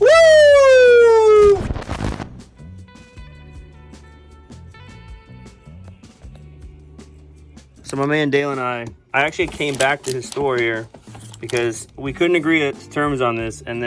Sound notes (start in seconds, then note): 1.7 static T.V. Noise